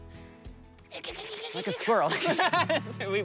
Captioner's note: mimicking squirrel chattering